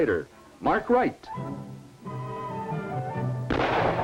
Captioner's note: gunshot